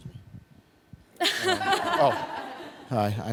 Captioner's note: laughter